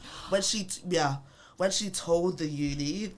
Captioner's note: gasps